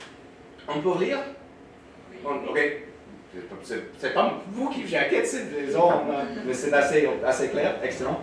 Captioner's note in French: rires